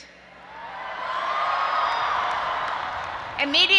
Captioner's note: audience applauding and cheering